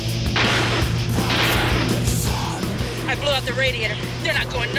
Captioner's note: gunshots popping